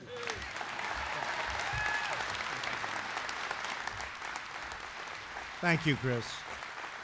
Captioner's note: applause